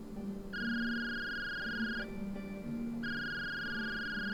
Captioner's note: phone rings